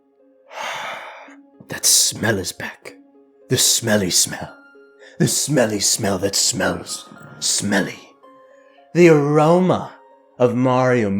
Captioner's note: sniiiiiiff